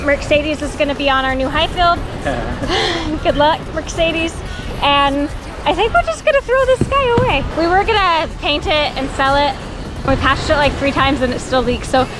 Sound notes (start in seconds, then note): 1.4 laugh